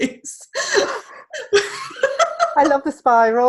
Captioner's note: laughing